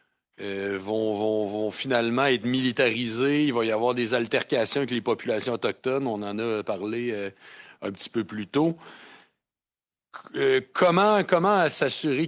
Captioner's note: speaking French